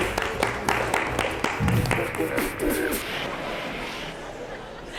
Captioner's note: audience applauding